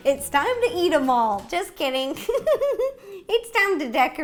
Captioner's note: giggles